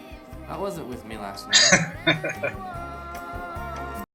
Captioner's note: laughing